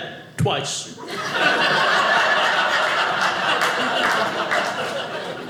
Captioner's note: audience laughing